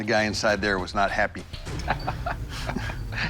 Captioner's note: laughs